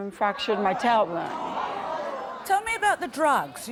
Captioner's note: murmuring